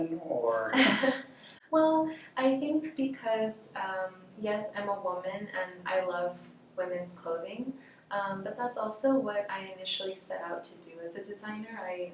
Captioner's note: laughs